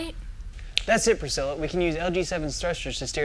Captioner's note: finger snap